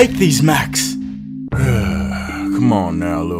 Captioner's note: sigh